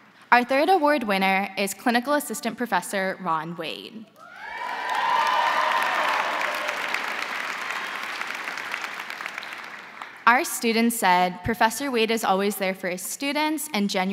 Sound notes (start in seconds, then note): 4.2 crowd cheering; 4.4 crowd applauding